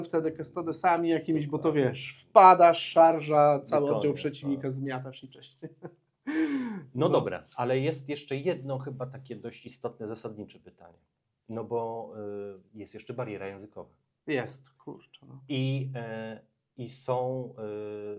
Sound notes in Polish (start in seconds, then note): 5.6 śmiech; 6.2 wciągnięcie powietrza